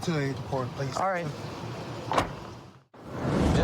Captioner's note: car door closes